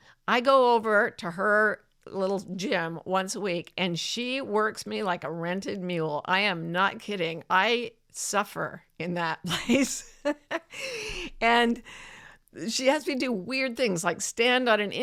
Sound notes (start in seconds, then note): 9.5 chuckles